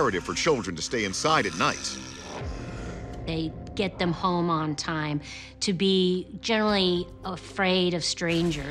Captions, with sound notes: to stay inside at night. [Strain] They get them home on time, to be generally afraid of strangers.